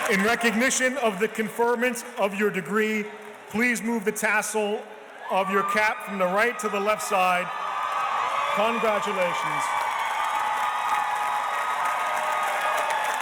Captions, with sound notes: In recognition of the conferment of your degree, please move the tassel of your cap from the right to the left side. (audience cheers and applauds) Congratulations.